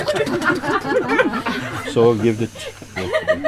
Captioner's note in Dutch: Gelach